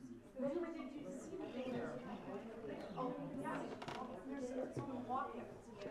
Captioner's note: background chattering